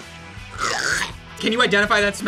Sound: gags

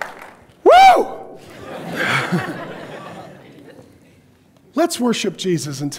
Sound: audience laughs

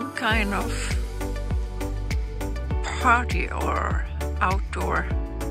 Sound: none

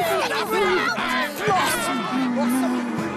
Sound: shouting

